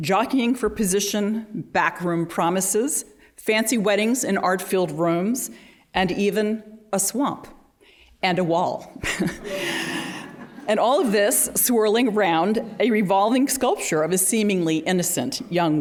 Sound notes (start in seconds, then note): 9.0 laughter